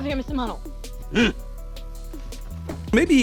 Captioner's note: Mano grunts in understanding